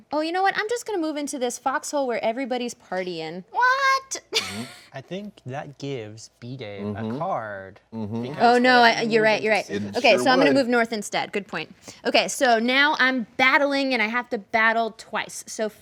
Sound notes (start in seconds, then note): 4.3 laughs